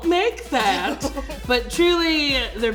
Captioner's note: laughs